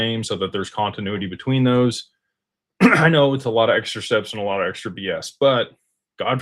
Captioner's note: clears throat